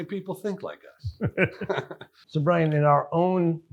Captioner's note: laughs